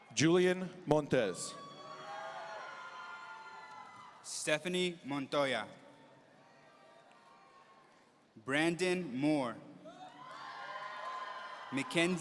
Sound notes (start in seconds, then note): 1.6 audience cheering; 6.5 audience cheering; 10.0 audience cheering